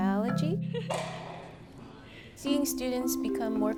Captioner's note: laughs